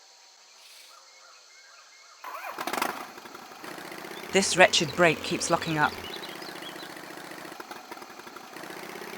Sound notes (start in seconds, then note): 2.7 brrr Brrr